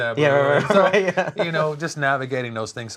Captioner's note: chuckles